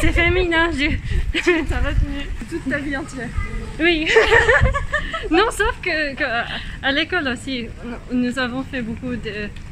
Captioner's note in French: rires